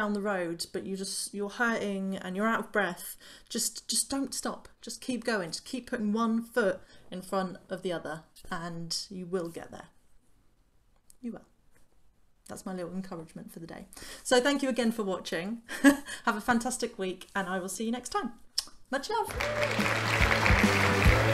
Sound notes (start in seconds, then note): 18.5 kiss; 19.2 clapping